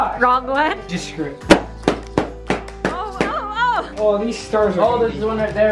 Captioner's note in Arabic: تفرقع البالونات